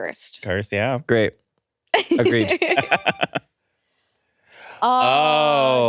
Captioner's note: both laughing